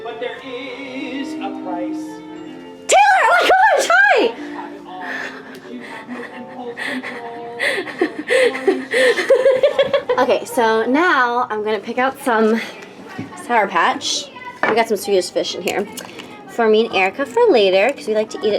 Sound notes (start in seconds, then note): 8.3 laughs